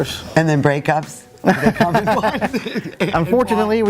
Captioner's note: both laugh